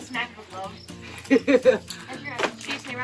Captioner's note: laughing